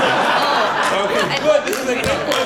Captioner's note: laughter